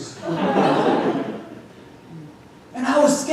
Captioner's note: audience groans and laughs